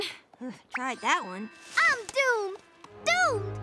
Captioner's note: groans